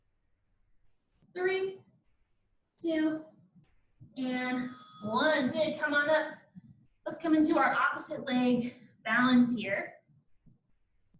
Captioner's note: ding